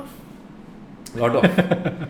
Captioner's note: laughs